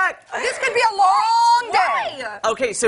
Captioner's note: laughter